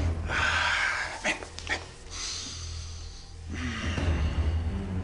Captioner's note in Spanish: El exhala